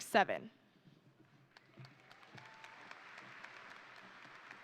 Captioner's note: crowd applauding